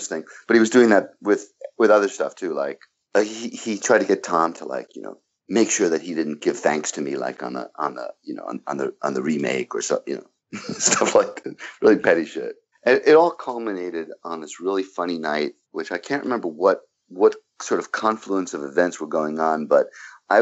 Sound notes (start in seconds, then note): 10.5 laughs